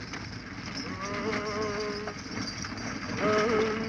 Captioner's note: man humming